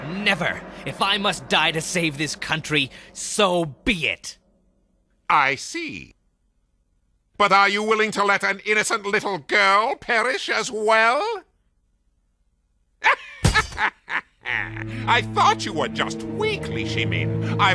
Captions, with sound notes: If I must die to save this country, so be it! I see. But are you willing to let an innocent little girl perish as well? ( Wang laughing maniacally ) I thought you were just weak, Li Shimin. I was wrong.